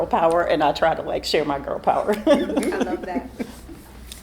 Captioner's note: laughs